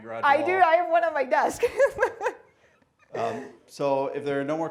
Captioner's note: laughing